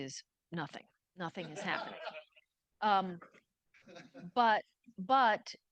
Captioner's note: audience laughing